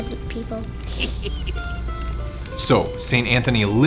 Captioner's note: child chuckles